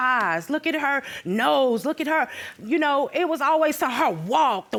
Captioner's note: none